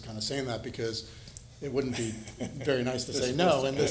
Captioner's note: laughs